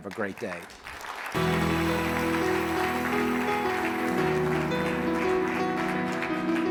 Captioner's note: audience applauding; calming piano music